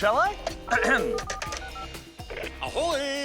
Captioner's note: clears throat